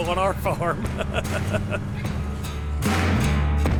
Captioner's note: laughing; upbeat music